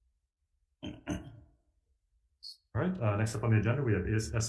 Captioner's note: clears throat